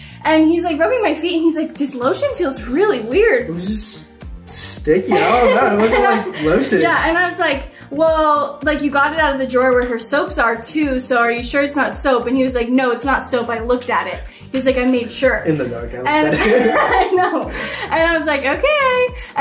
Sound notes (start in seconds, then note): 16.1 both laughing